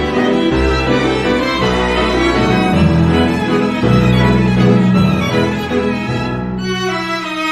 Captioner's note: howl